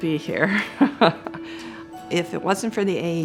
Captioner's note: laughs